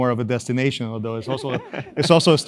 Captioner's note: laugh